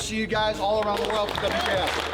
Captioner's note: applause